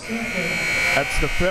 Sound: buzzer ringing

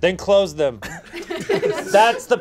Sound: audience laughs

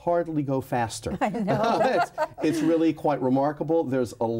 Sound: laughing

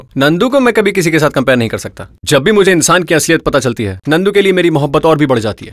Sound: none

